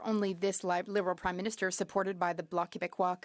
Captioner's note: speaking French